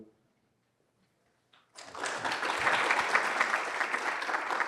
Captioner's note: applause